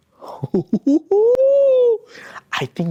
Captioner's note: giggle